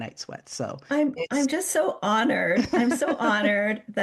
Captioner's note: chuckles